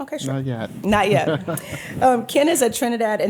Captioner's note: chuckles